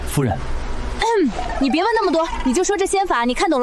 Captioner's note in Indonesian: batuk